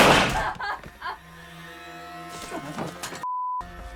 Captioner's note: crying